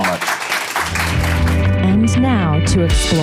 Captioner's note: audience applauding